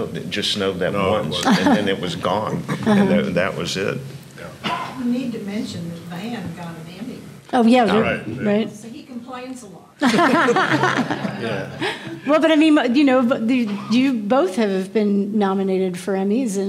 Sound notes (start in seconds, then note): 10.0 everyone laughing